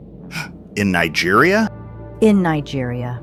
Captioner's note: gasps